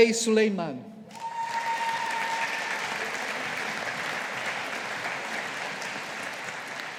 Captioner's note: audience applauding